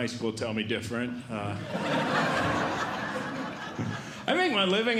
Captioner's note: audience Laughing